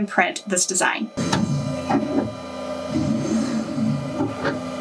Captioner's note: machine whirring